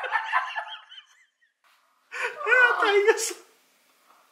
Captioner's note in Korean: 웃음소리